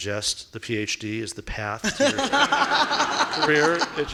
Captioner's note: laughing